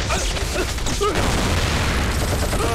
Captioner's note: Explosion